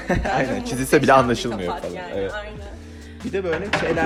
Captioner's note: laughter